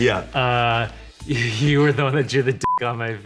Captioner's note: beep